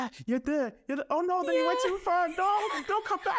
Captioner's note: laughing